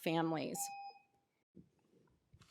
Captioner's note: tone